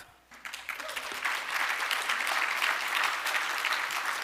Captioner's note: audience applauding